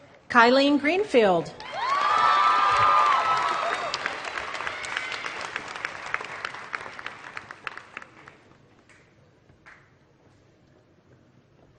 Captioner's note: applause